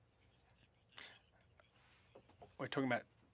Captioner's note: speaking French